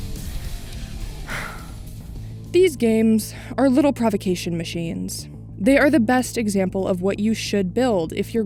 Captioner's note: sigh